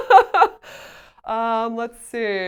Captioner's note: laughs